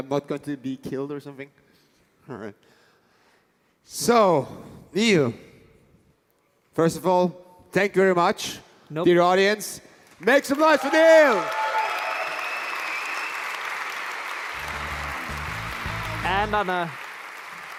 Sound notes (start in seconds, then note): 11.8 applause